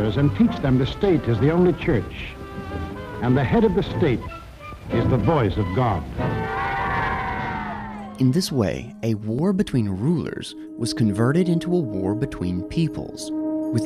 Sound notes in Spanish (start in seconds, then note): 6.5 niños aplaudiendo